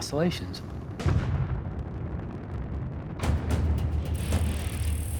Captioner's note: explosion